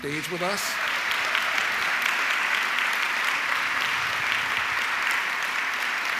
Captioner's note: audience cheering and clapping